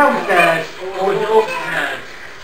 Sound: child's voice; child's voice x2

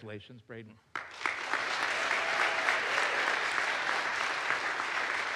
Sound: audience applauds

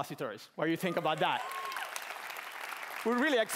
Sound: cheering

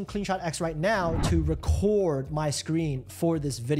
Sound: air whooshes

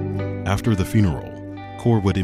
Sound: voiceover

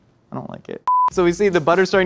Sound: beep

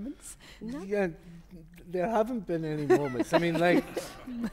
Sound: laughter

